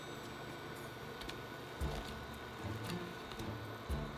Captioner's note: simmering